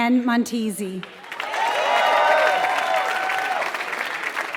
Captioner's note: applause